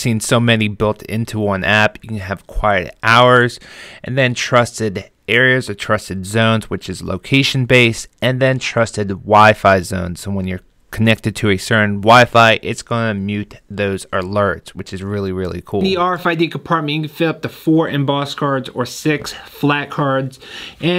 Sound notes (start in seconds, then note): none